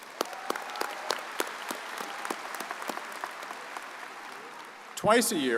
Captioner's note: audience cheers and applauds